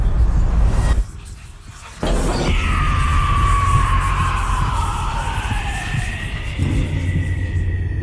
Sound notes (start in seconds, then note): 2.4 screaming